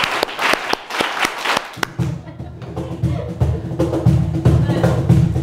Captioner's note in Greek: χειροκρότημα